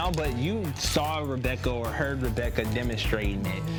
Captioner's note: none